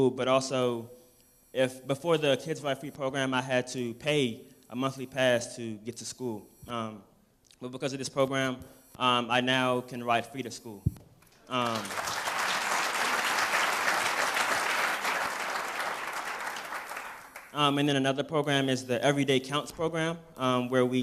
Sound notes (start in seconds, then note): 14.1 applause